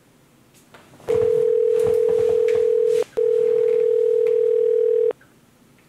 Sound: phone ringing

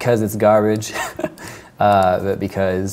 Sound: laughs

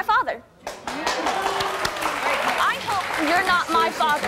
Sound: applause

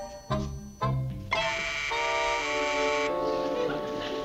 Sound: doorbell buzzing

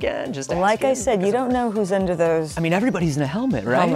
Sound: none

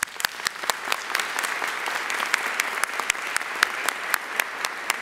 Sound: audience applauding

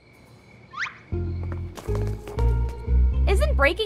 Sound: crickets chirping; footsteps pattering

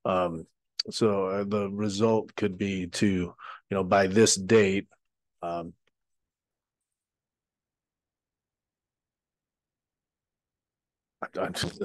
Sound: long pause

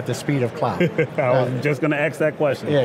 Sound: laughs

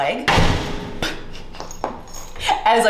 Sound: prosthetic leg banging

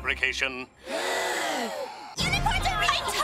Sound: sighing

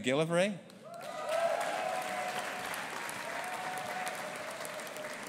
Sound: audience applauding

